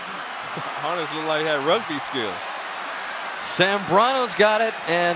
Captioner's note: laughs